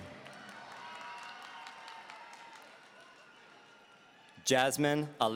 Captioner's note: audience cheering